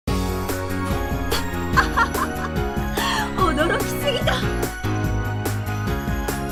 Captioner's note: laughs